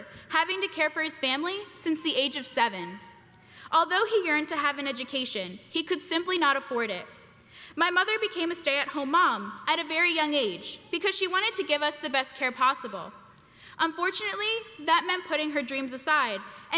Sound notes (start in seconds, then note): none